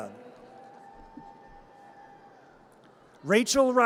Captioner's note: audience cheers